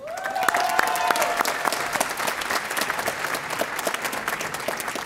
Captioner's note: audience applauding